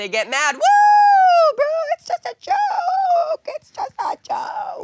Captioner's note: squeaky voice